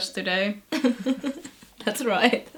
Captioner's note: laughs